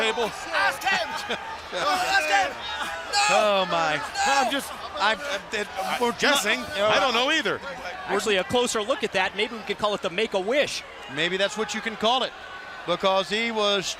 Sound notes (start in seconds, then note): 1.4 crowd chatter